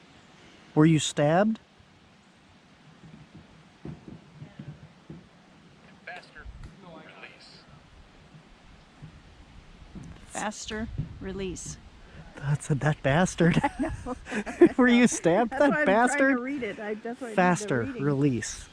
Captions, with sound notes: were you stabbed? "FASTER" "RELEASE" faster release I thought it said that bastard I know [laughter] were you stabbed? that bastard. faster release